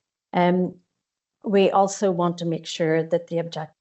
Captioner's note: none